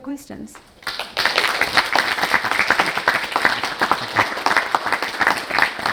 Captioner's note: audience applauding